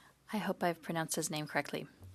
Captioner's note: speaking in French